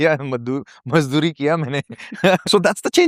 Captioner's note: laughter